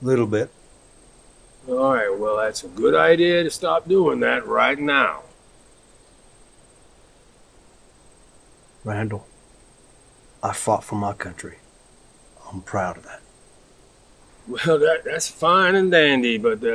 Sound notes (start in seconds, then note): none